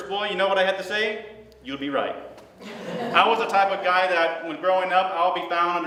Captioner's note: laughter